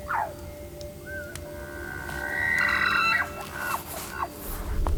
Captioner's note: animal sounds